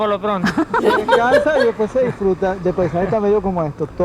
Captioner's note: laugh; laughs